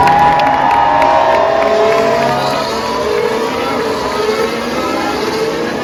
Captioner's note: cheering